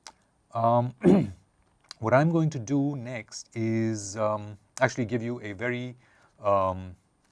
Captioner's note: cough